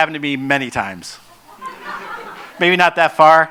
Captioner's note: laughs